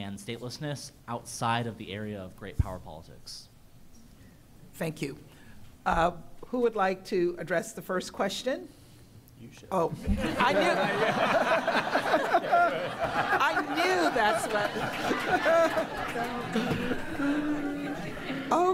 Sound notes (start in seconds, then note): 11.4 laughter; 14.6 laughter